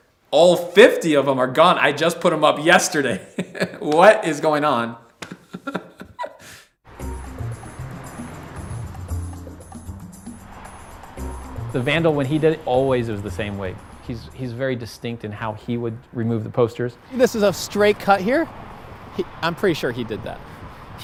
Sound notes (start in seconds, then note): 5.2 laughter; 6.9 upbeat rhythm